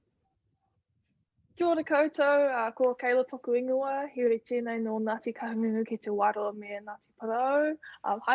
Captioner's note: speaking te reo